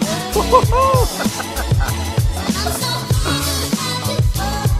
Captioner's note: excited laughter